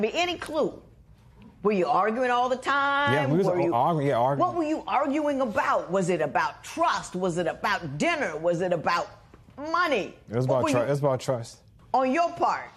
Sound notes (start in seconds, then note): none